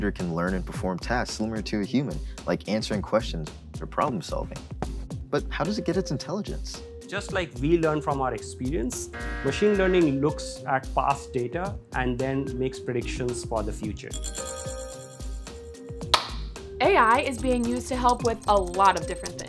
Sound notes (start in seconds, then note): 16.1 clap!